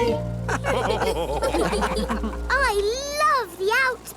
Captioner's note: all laugh